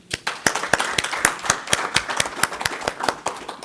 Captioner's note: applause